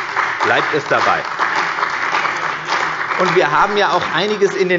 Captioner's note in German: Beifall bei der CDU und dem BÜNDNIS 90/DIE GRÜNEN